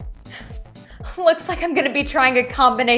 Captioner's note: gasps